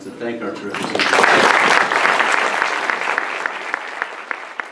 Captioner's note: applause